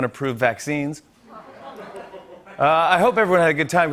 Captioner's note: laughter